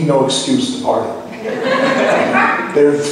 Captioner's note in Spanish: laughs